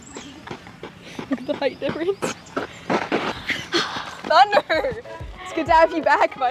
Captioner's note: giggles